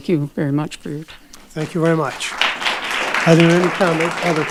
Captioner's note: audience applauding